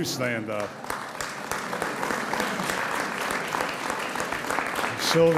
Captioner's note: audience applauds